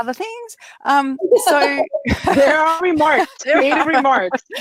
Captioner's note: laughing